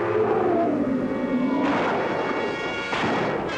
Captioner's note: gunshots; screams